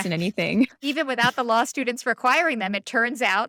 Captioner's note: laughter